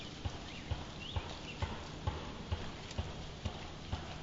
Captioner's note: pounding